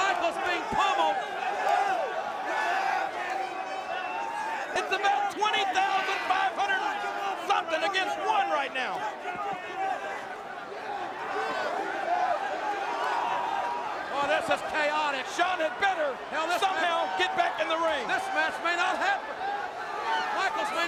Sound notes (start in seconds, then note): 12.0 audience shouting